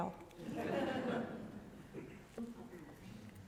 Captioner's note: laughter